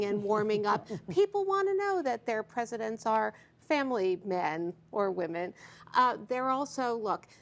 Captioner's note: laughter